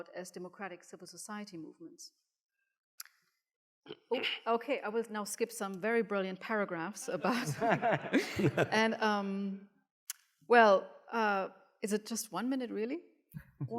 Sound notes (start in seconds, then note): 4.2 clears throat; 7.2 laughs